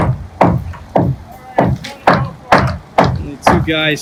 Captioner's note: wood thudding